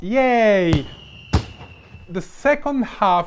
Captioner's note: fireworks sfx